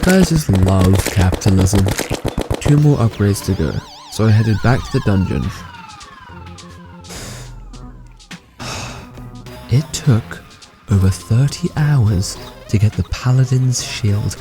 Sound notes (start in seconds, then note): 8.5 deep breath